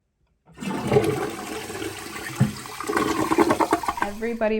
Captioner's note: toilet flushes